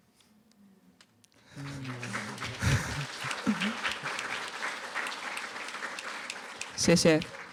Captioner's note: applause